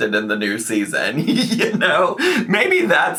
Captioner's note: laughs